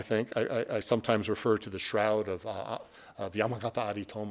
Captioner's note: speaking Japanese